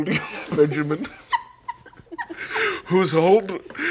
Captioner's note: wheezing